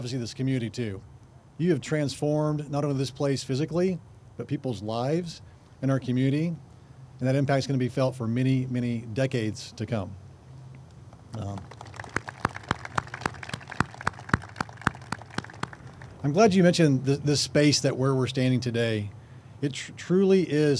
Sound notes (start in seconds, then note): 13.2 group claps